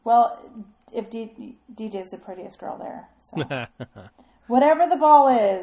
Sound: DJ laughs

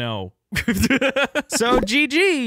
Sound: laughing

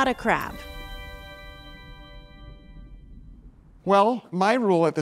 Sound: water burbling

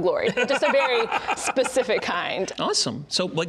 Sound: laughing

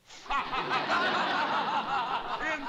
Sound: laughter

